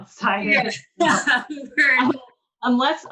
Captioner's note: women laugh